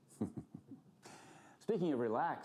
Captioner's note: laughing